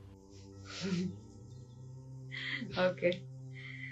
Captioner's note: नाक से की जाने वाली आवाज़